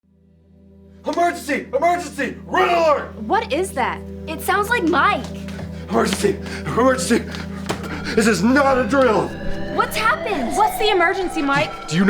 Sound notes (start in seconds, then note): 7.8 alarm sounding